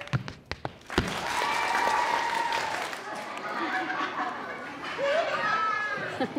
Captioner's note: feet tapping rhythmiccally; audience cheering loudly